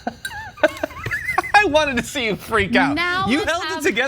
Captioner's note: laugh